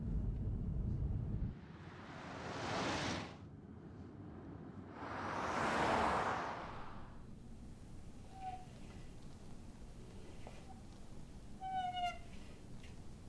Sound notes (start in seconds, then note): 7.8 globe squeaking